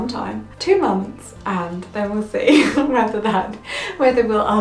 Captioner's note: laughs